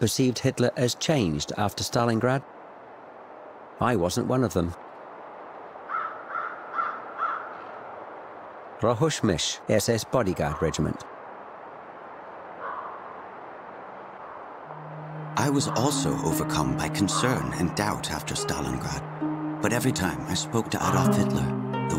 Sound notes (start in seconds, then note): 5.8 crow cawing